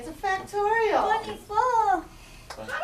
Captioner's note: voiceover